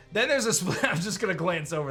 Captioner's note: chuckles